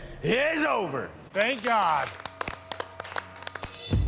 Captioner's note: applause